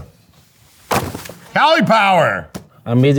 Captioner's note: box clanging